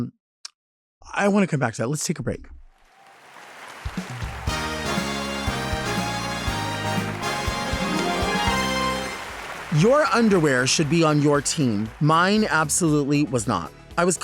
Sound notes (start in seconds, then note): 2.7 audience clapping; 3.9 upbeat music